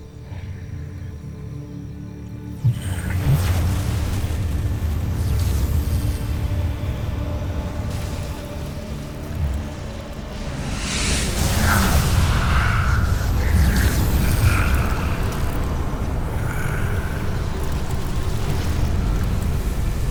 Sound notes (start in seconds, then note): 0.2 evil energy whoosh & crackle; 10.6 growls; 11.5 evil energy whoosh & crackle